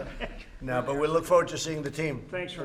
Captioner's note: laughter